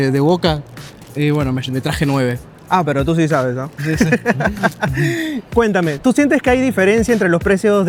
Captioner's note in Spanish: risas